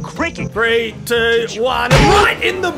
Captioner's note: Aussie accent